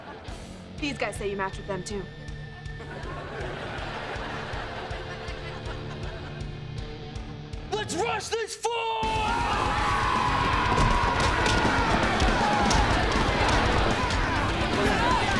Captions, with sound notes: These guys say you matched with them, too. Let's rush this fool! [screaming]